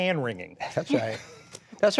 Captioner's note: laughter